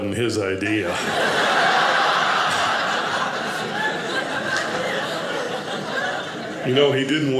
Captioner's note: audience laughing